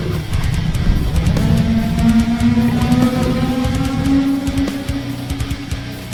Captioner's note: tentacle beast blares